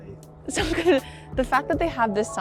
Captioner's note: chuckles